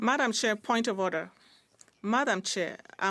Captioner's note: speaking French